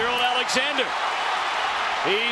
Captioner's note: crowd cheering